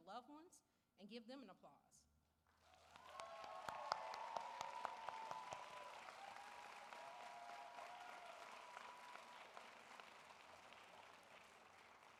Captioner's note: applause